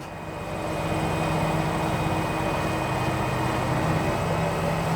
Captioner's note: machinery whirring